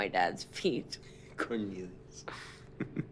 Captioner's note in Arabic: ضحكات خافتة